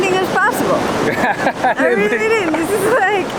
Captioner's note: laughs